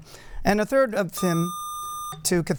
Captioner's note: buzzer